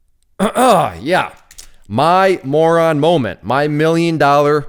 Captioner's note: coughs